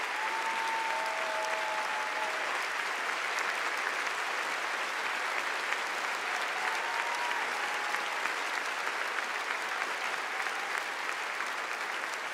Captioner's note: applause